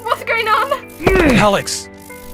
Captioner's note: Alex groans